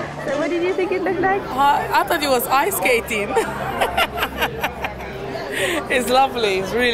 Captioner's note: laughter